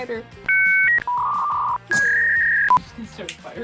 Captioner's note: animation beeping